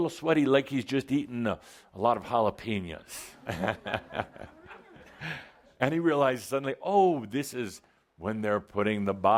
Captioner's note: Adamus chuckles